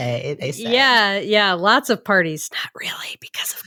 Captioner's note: whispers